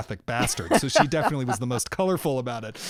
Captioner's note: laughter